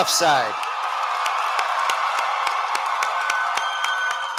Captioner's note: cheering